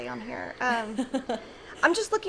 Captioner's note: laughing